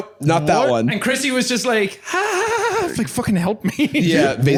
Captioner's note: nervous laughter